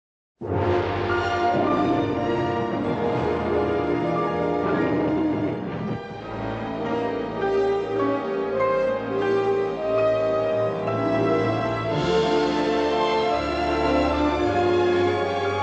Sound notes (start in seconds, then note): 1.2 roars